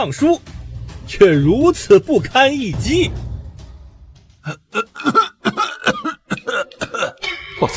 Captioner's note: cough cough cough